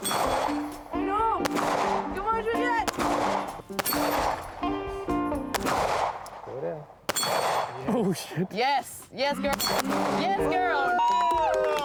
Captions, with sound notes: - No, come on, Juliette! (gun firing) - Oh shit. - Yes, yes girl. (gun firing) - Yes girl!